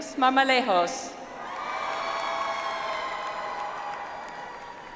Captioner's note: audience applauds